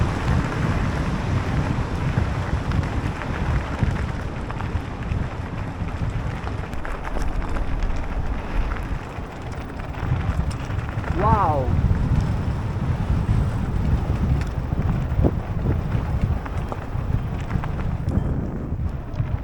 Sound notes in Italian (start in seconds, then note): 11.2 Applauso